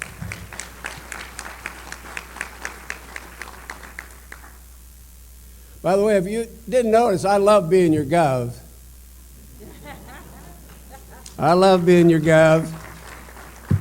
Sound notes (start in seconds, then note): 0.0 applause; 9.5 laughter